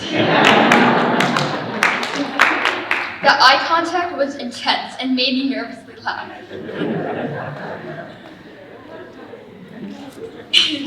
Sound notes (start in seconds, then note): 0.0 audience laughing; 6.3 audience laughing